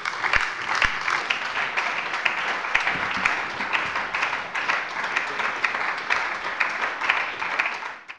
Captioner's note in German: Beifall bei der LINKEN und der SPD